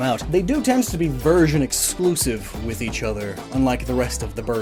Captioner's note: none